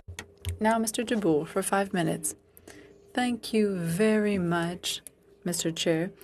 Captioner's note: speaking French